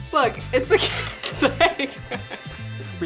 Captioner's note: laughs